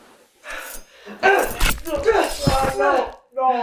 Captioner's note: Greg panting; knife clangs; knife slicing; Greg grunting